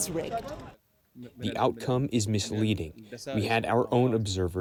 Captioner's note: through translator